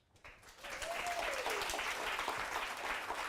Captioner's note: applause and cheers